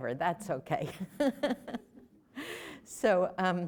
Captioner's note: laughter